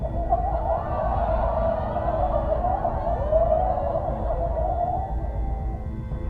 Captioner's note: laughter continues until signal degrades into static